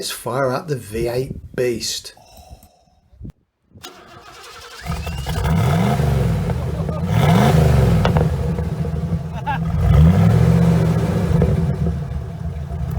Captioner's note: V8 sounds